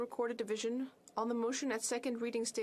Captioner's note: speaking French